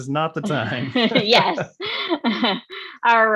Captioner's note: laughing